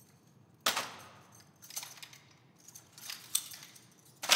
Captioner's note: guns rattling